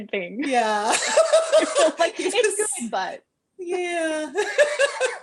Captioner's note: laughter